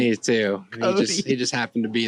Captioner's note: laughs